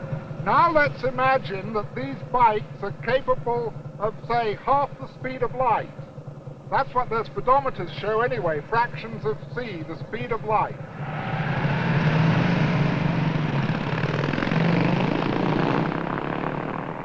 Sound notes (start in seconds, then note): none